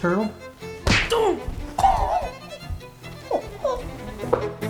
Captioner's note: sounds of pain